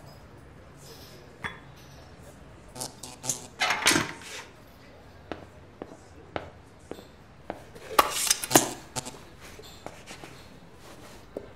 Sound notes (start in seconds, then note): 2.5 electricity crackling; 8.4 electricity crackling